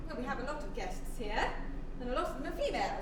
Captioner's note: none